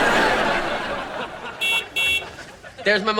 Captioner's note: audience laughing; horn honking